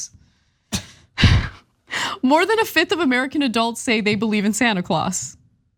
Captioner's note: laugh